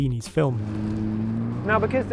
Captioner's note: car engine revving